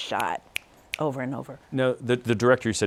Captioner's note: snapping